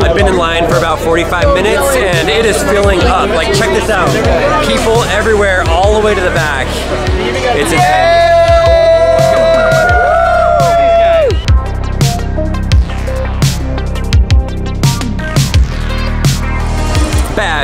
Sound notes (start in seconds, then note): 7.6 man cheers; 13.0 upbeat music